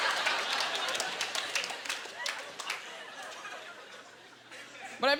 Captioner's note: audience laughter; scattered applause